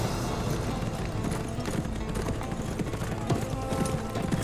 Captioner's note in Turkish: At nalı sesleri